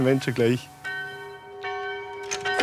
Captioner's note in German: Glockenläuten